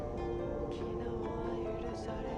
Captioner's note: cold wind rises